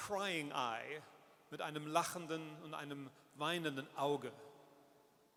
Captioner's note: speaks in German